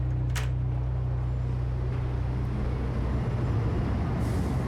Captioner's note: door creaks